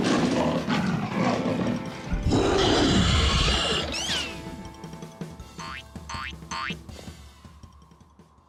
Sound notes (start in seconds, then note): 0.0 growling; 2.2 creature roars